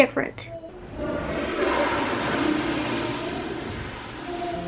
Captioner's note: sound of toilet flushing; theme music